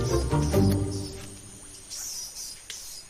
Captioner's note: monkey's squabble